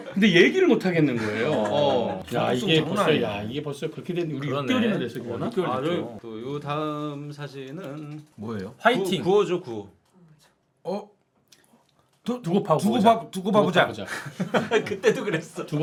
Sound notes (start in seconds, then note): 8.9 shouting a chant